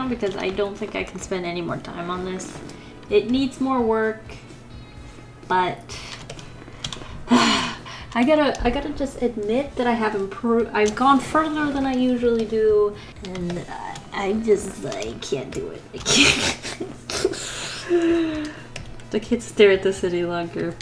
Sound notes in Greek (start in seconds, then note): 6.9 Αναστεναγμός; 16.6 Γέλια; 16.9 Βαθιά εισπνοή